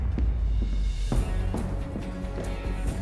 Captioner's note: bang; running steps